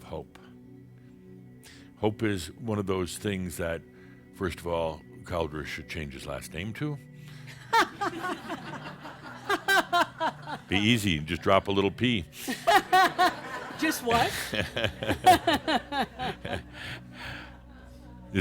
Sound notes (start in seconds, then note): 7.0 some laughter; 12.0 laughs loudly; 16.3 they chuckle